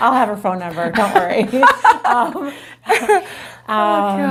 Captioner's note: laughing